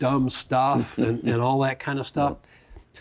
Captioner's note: laughs